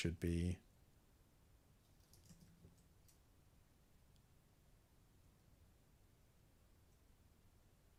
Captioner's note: silence